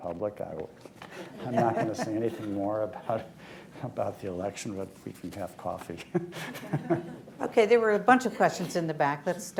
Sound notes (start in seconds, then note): 1.2 laughter; 6.2 laughs